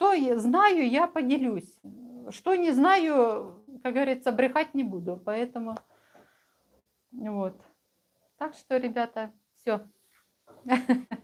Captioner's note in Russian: смех